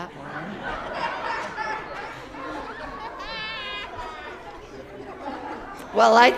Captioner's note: laughter